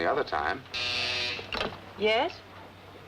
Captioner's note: phone buzzing